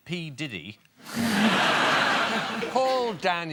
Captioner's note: audience laughter